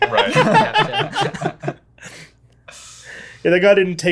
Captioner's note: laughter